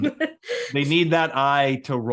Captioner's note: laughing